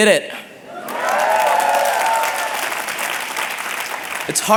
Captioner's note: applause and cheering